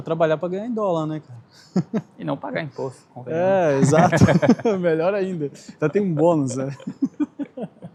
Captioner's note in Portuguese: risadas